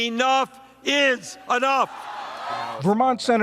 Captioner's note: cheering and applause